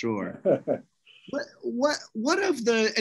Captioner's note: laughs